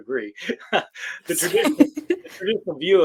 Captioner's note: laughter